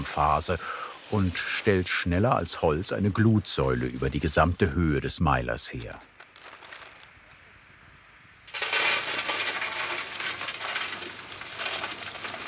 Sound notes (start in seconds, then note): 8.5 clattering